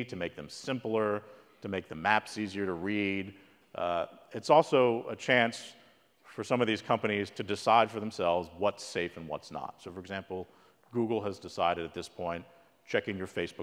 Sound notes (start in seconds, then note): none